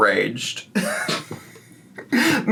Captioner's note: laughing